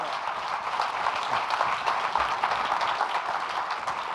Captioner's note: audience applauding